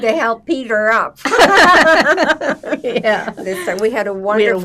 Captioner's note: laughing